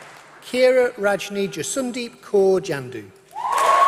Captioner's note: applause